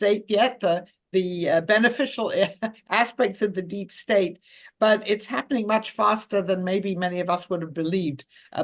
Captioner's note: laughs